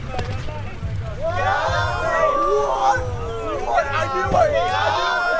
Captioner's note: crowd is shocked